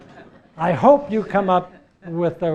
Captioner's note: laugh